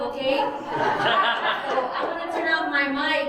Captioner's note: audience laughing